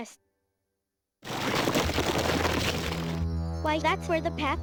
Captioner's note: rock grating